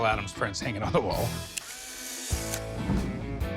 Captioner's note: camera shutter clicks